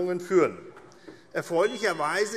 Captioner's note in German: Unruhe SPD - Glockenzeichen